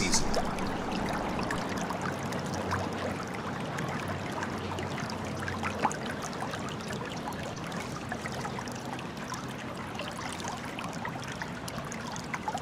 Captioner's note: water running